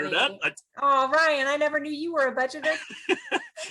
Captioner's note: they laugh